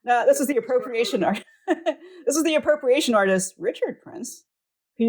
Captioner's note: laughs